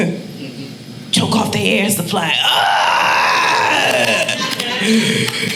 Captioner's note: groaning